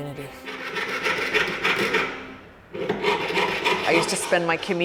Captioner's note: sawing